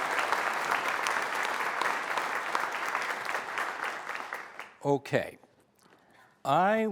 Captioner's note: applause